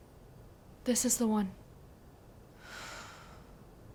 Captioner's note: sighs